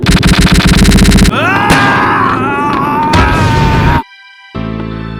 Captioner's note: manly screams of violence